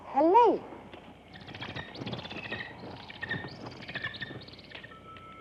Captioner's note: Helene chittering; soft mysterious music